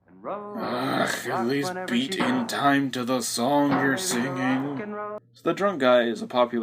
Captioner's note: as drunk DJ